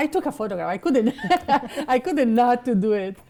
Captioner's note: chuckling